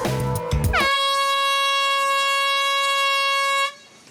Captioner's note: horn blaring